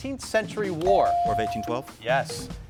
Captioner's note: bell dings